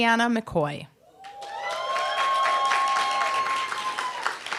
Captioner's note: applause, cheer